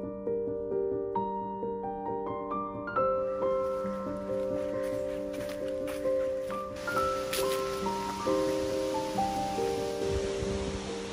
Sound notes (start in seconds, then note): 3.2 leaves rustling; 3.4 footsteps crunching; 10.3 expressive piano music; 10.3 leaves rustling